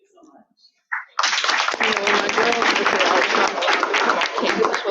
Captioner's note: audience clapping